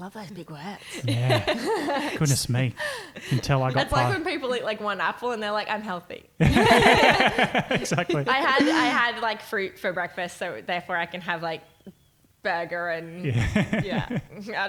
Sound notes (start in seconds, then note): 0.8 laughing; 6.4 laughing; 13.2 laughing